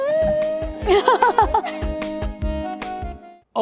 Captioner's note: both laugh